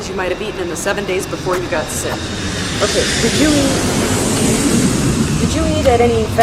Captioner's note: very loud airplane landing noises